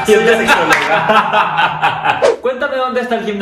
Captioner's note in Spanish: risas